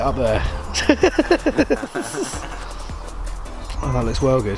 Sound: laughing

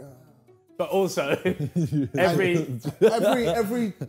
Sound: chuckling

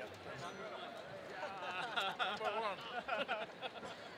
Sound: laughs

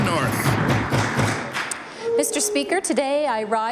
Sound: applause

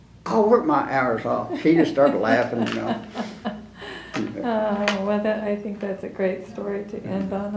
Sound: laughter

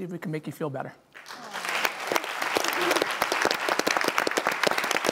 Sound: audience applauding

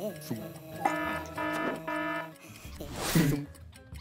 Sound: gentle buzzing; upbeat music; alarm ringing; gentle buzzing; upbeat music

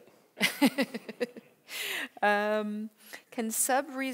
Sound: laughs

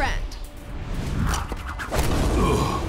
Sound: grunting

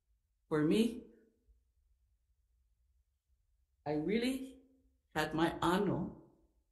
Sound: speaking Ōlelo Hawai'i

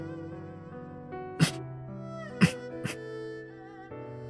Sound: cough cough cough

